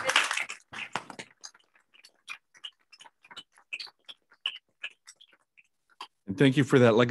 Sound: applause

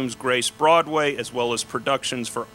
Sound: none

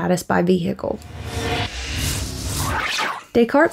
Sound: digital effects

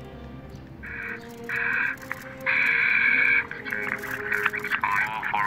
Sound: walkie-talkie sounds

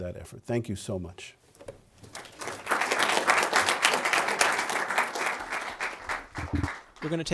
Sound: applause

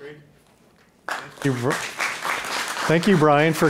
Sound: audience applauding

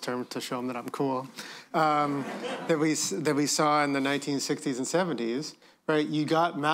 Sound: laughter

